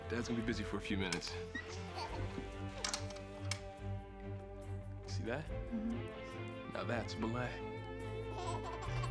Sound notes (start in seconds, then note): 1.8 child giggles; 2.8 click!; 8.3 child giggles